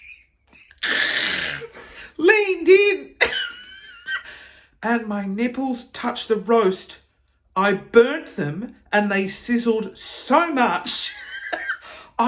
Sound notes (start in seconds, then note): 3.4 laughing; 11.2 chuckling